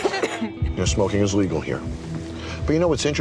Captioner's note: customer coughing